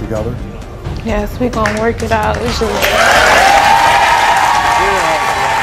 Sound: audience cheers

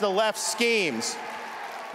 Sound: cheering and applause

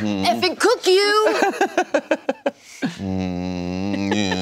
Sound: laughing

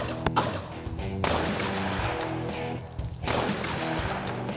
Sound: gun fires twice; gun fires twice, slowly

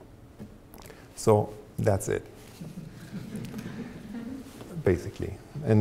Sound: audience chuckling

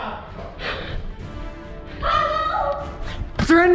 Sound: yells

